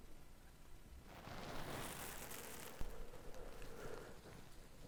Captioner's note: grass rustles